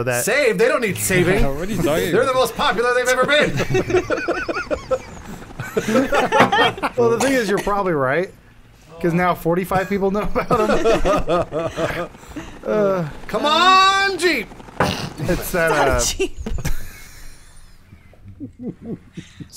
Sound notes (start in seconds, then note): 4.5 laughing; 6.2 bonk; 11.5 laughing; 14.5 bonk; 17.4 laughing